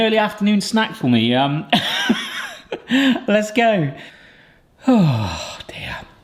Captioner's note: laughs